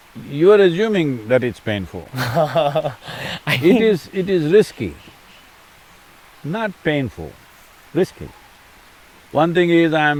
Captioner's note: laughs